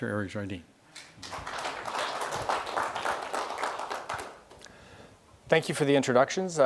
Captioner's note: audience clapping